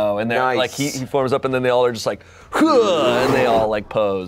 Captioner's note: grunts